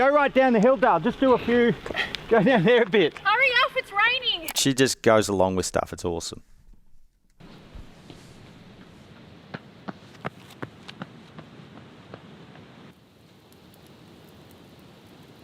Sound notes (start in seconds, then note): 7.9 shoes running